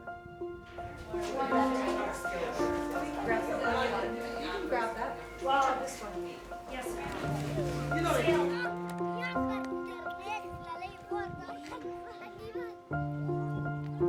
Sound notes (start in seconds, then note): 1.1 indistinct chatter